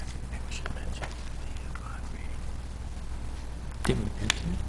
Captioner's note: whispering